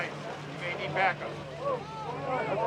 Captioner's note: crowd